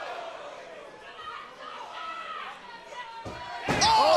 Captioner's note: crowd chatter